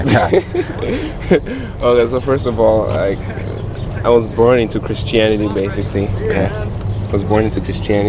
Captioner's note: laughing